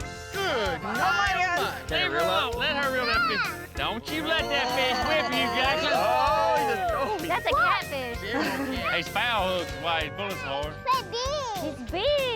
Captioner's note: all clamoring